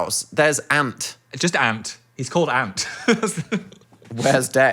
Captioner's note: laughs